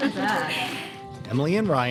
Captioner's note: people laughing